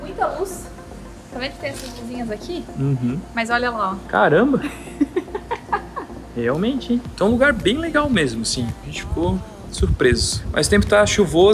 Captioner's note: laughs